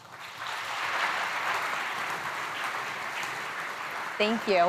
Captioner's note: applause